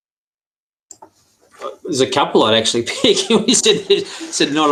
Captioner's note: laughs